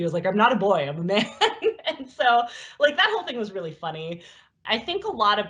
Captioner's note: laughs